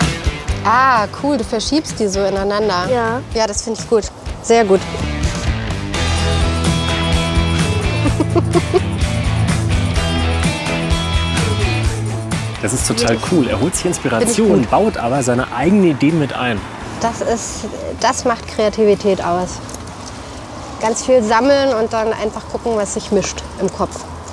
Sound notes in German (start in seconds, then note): 5.1 Rockige Musik; 7.6 lacht